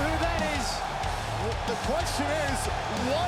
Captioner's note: crowd cheering